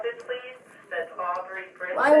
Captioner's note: radio chatter